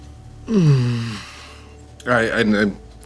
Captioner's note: groaning